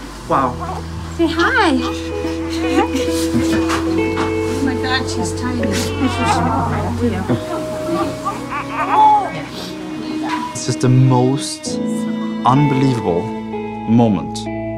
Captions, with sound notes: - Wow. - Say hi. - [laughing] - Oh, my God, she's tiny. - Aww. - Here we go. [baby cooing] - It's just the most unbelievable moment